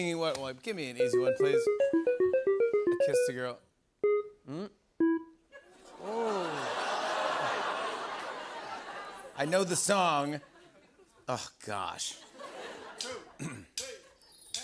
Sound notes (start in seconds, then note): 1.0 beeping; 6.0 audience oohs